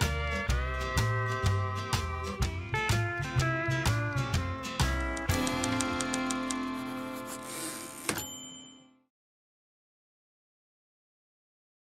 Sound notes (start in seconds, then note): 5.3 typewriter sounds; 7.9 typewriter dings